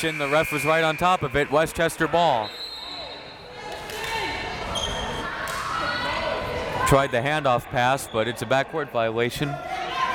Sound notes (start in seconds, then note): 2.4 whistle tweeting; 3.9 crowd members shouting